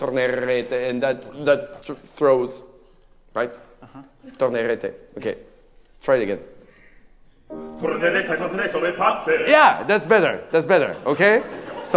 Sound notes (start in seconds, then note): 0.1 speaking in a foreign language; 4.6 speaking in a foreign language; 7.8 singing in a foreign language